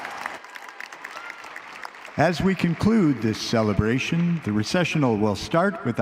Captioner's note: applause